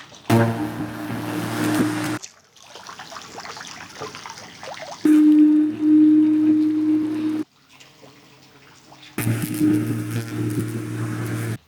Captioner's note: water sounds